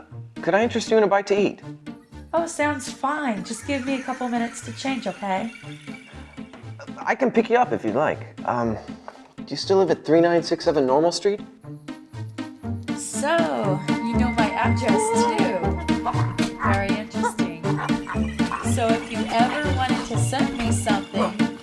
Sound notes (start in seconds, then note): 15.6 Farance gasps